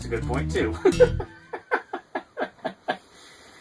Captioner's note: laughing